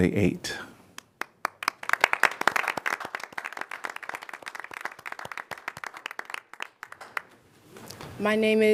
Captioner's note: applause